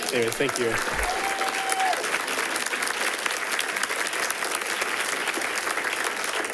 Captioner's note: people cheering and clapping